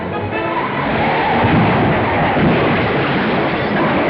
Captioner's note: car banging; dramatic music